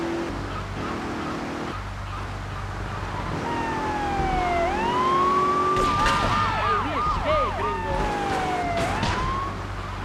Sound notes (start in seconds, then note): 2.9 siren wailing; 5.9 speaking spanish